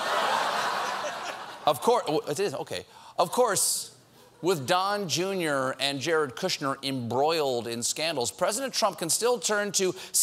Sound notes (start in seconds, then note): 0.0 laughter